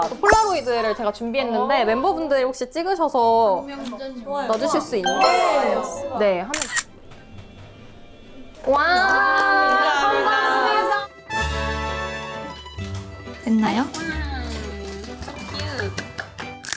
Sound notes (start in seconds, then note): 6.5 click